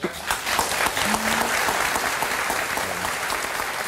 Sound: audience applauds

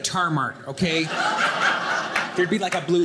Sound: audience laughing

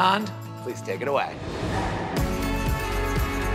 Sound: air swooshing; upbeat music

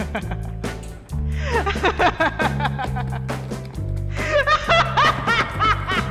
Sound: laughs maniacally

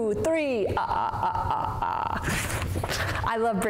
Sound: deep laughter

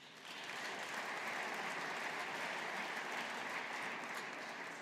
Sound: audience applauding

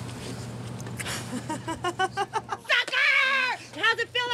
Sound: laughs

